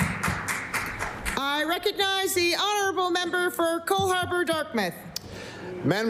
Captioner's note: applause